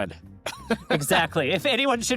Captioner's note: laughs